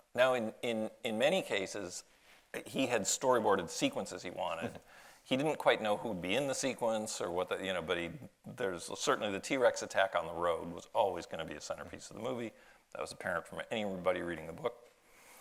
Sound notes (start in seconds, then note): none